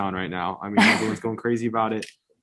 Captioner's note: chuckles